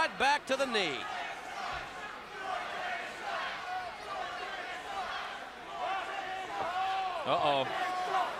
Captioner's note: crowd chatter